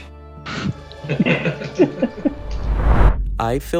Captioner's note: all laughing